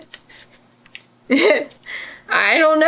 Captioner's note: laughs